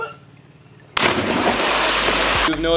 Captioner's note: water splashes